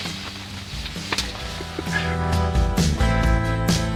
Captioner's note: hand clasps; upbeat guitar and snare drum music